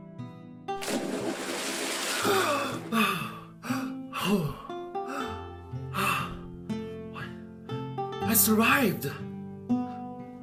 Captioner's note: gasps for air